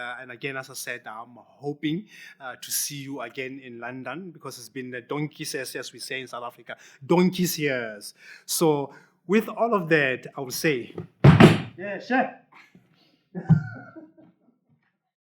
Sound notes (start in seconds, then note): 11.0 speaks in foreign language; 13.3 chuckles